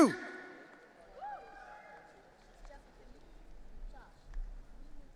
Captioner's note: audience cheering